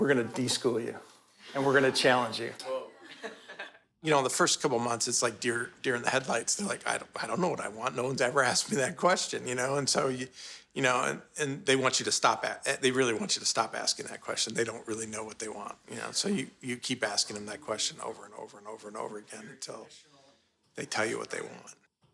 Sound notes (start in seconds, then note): 3.0 laughter